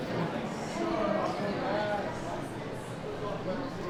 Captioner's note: people chatting